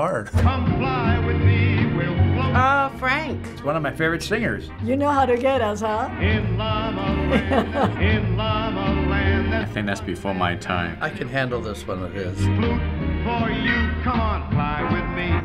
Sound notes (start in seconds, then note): 7.2 laughing